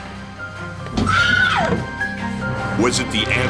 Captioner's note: Cassandra screaming